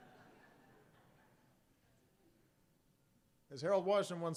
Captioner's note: laughter